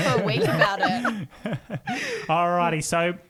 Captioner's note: laughing together